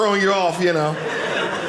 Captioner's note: audience laughing